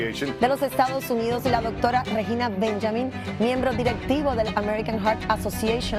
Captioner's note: speaks in foreign language